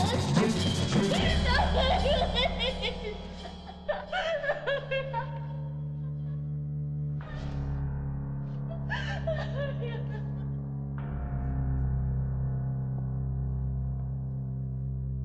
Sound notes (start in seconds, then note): 1.7 Julie sobbing; 8.0 ominous music